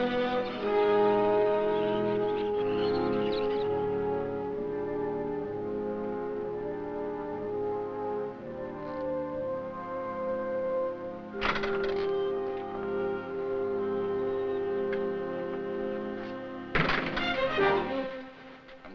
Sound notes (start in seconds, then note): 11.4 door rattles; 16.7 door bangs